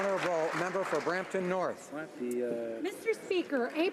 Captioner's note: applause